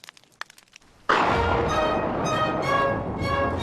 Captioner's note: fire crackles; thunder crashes